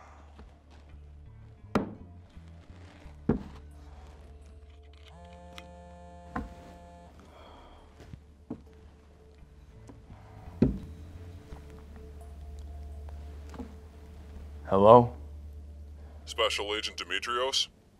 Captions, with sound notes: (phone vibrating) (sighs) - Hello? - Special Agent Demetrios?